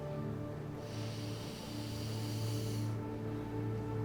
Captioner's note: sniffing